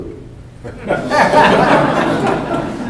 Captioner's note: laughter